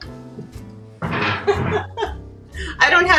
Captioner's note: chuckles